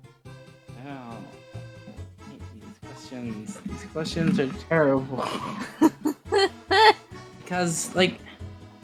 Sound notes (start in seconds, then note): 0.7 noise of disgust; 5.7 laughs in spanish